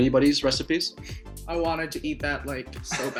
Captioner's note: chuckles